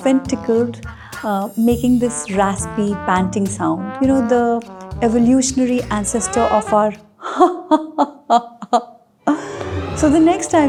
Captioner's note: laughter